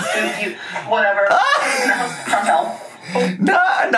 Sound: laughs; laughing

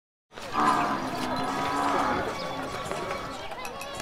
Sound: bellows

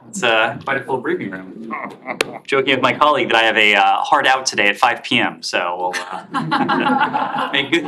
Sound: laughter

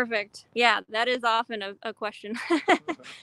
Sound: laughs

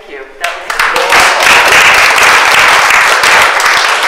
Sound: audience applauds

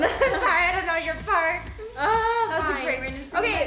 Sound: laughs

